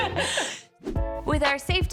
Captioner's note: laughing